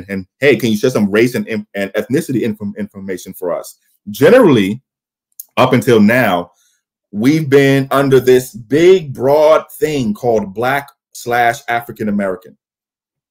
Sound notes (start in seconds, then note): none